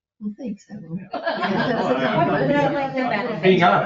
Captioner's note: all laughing